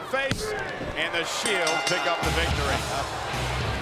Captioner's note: bell rings